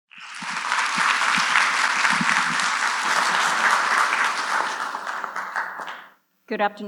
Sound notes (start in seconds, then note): 0.0 applause